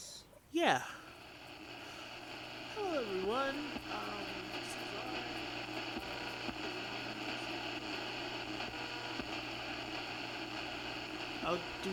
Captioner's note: Damiens words start to fade out as the audio muffles and static rises; static fades